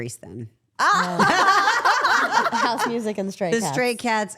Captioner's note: all laughing